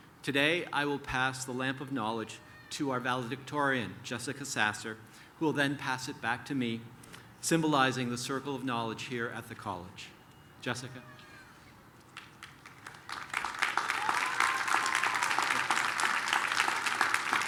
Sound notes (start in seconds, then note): 12.1 applause